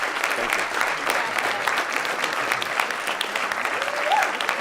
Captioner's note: applause